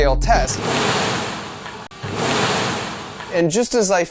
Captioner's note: contraption whooshes